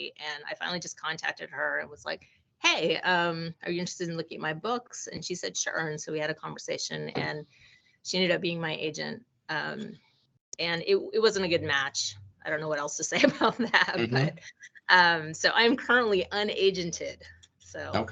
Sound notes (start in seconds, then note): 13.9 laughing